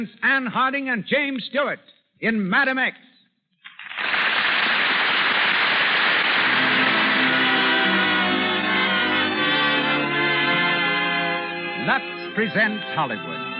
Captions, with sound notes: Ann Harding and James Stewart in Madam X. (audience applauds) Lux presents Hollywood.